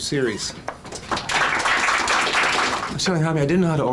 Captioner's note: audience applauding